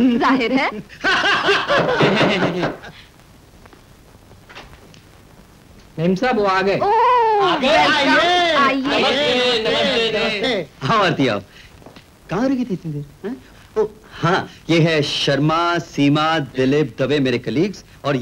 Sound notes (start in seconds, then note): 0.8 laughing